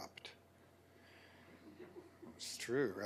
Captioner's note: laughter